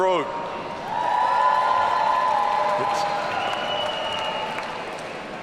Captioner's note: audience cheering